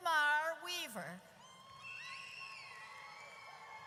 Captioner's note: audience cheers